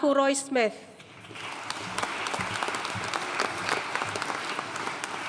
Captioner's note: audience applauding